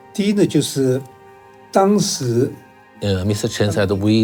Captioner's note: speaking in foreign language